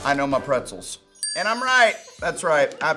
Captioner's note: bell dings